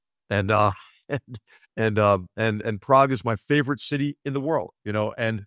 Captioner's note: laugh